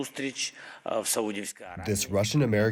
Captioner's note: through translator